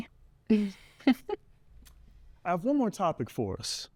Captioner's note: Ms. Blades giggles